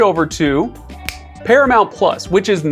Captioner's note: fingers snapping